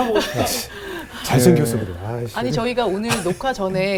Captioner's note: laughing